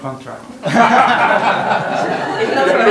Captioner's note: laughter